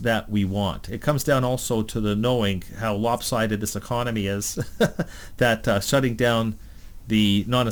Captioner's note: laughs